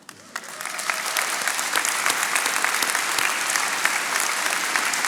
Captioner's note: attendees applauding